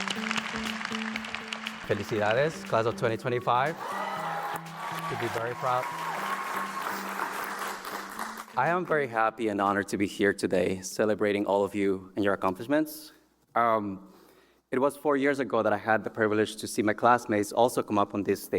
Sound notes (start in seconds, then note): 1.4 applause; 5.9 applause